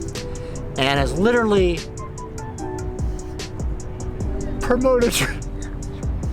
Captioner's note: sniffles